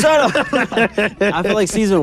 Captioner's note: everyone laughs